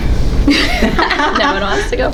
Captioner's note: panelists laughing